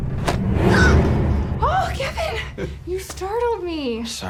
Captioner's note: ominous music; gasps